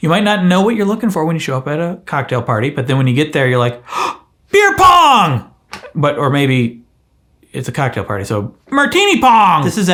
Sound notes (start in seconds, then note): 3.8 gasps